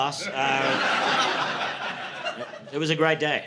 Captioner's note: audience laughing